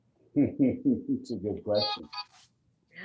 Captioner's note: laughs